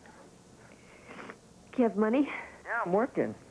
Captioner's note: sniff